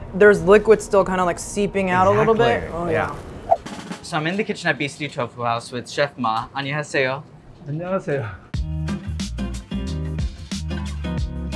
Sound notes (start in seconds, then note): 6.5 speaking Korean; 7.4 speaking in Korean; 8.6 upbeat music